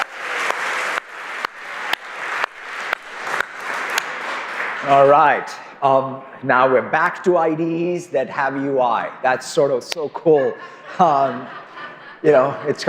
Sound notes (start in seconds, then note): 3.9 applause